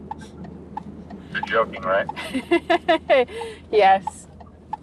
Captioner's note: laughing